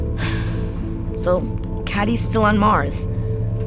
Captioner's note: sighs deeply